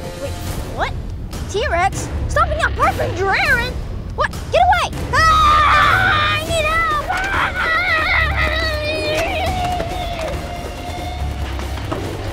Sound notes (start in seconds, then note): 5.2 shouting; 9.6 intense music